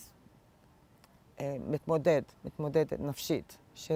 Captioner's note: hebrew